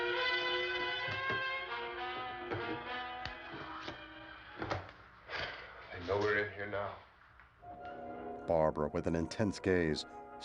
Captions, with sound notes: [exhales deeply] They know we're in here now.